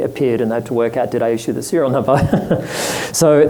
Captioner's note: laughs